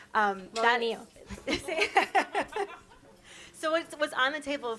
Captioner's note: laugh